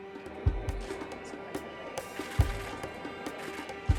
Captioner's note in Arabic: ثرثرة الحشد